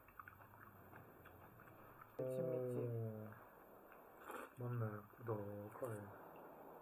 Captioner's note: confident